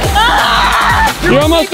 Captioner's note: screaming